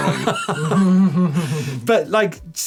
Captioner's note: laughing